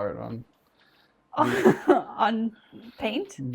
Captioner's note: laughs